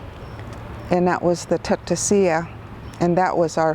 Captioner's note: speaks in foreign language